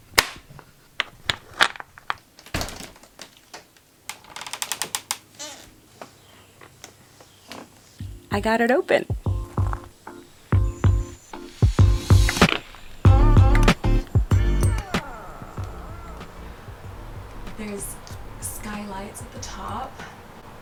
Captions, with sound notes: (lock clicks) (window creaking) I got it open. (upbeat music) There is skylights at the top,